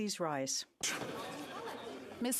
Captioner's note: speaking French